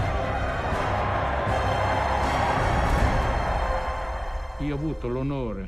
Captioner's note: cheering